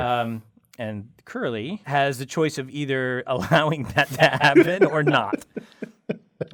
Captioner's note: laugh